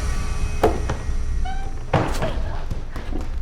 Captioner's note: Catherine whimpering